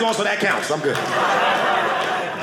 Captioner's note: audience laughing